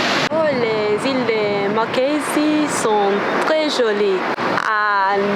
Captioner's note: French